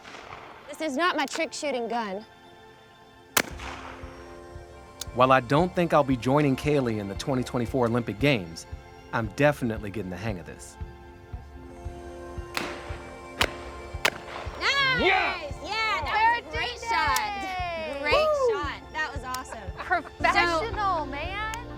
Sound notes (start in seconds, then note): 3.3 shotgun bangs; 12.5 shotgun banging